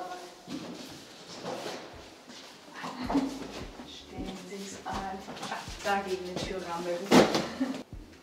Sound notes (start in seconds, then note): 4.3 speaking in German